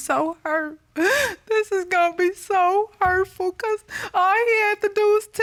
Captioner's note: sobs